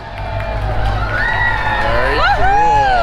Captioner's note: crowd cheers